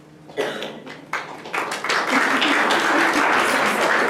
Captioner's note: applause